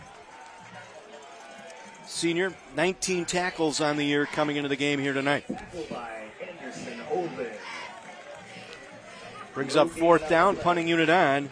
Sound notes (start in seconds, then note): 7.9 applause